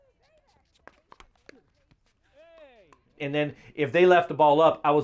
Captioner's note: cheering